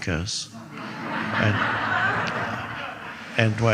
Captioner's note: audience laughing